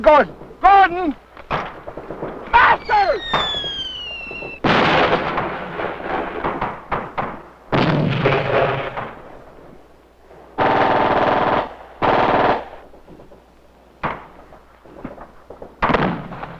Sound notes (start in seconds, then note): 9.3 explosions booming; 9.3 missiles whistling; 15.6 explosions booming; 15.8 guns blasting